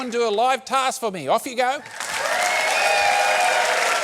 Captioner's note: cheering, applause